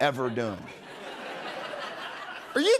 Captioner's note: laughter